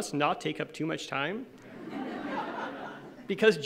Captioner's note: laughing